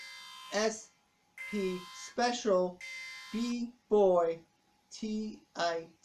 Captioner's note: alarm stops